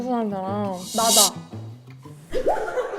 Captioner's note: biting sound effect